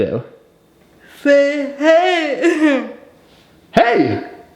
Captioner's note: laughing